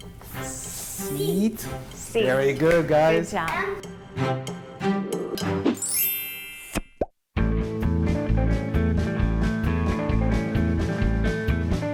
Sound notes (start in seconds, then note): 5.8 chimes; 6.8 popping sound; 8.0 upbeat blues music